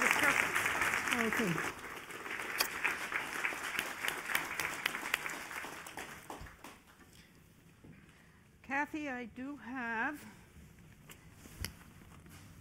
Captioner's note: applause